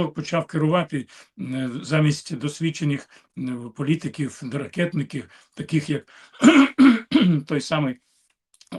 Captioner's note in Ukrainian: кашель; прочищення горла